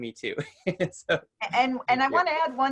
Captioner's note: chuckles